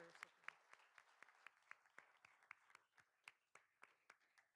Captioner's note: all applauding